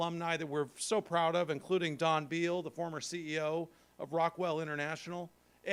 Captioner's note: none